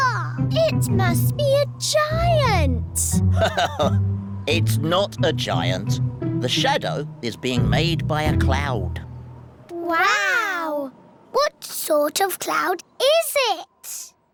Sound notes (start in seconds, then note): 3.2 laughs